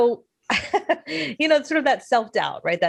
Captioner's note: laughs